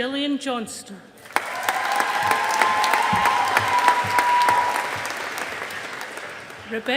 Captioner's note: audience applauding